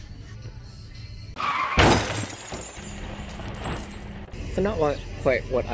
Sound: sound of tires screeching and car crashing

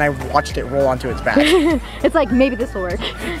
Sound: chuckles

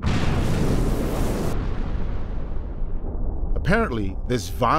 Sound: explosion

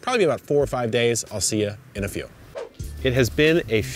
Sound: air whooshing

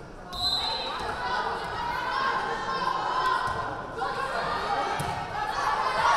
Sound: whistle blaring; crowd calling out

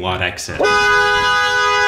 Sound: cars honking

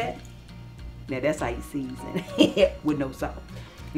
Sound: laughs

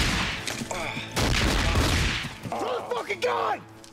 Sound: grunts

